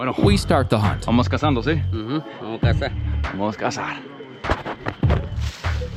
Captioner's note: speaking in foreign language